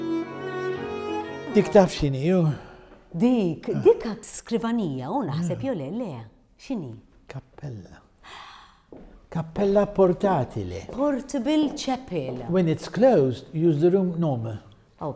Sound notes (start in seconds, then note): 8.2 gasps